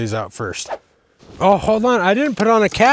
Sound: script whooshes

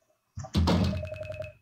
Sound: thunk

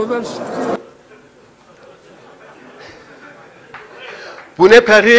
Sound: laughter voices

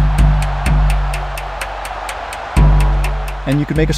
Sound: crowd cheering; percussive music

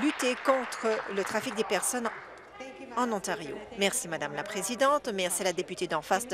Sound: applause

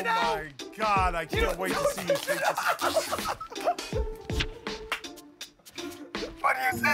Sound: laughs

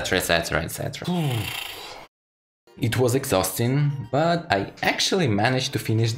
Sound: exhale

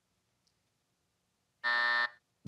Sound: buzzer

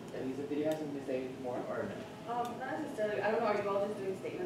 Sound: faint chatter

